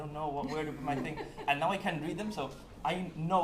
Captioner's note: laughing